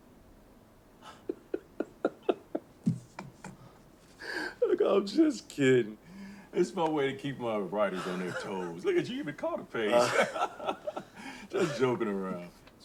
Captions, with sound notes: - (Laughs) Look, I'm just kidding. It's my way to keep my writers on their toes. Look at you, you even caught a page. Just joking around.